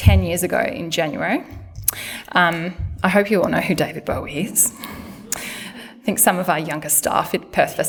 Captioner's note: laughter